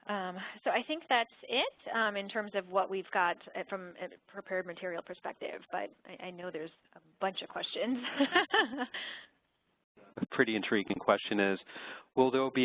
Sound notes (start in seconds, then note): 9.6 laugh